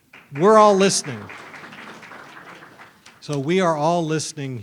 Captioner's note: audience applauds